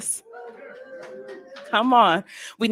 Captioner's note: audience clamoring